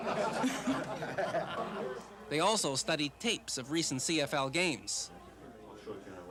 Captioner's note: laughter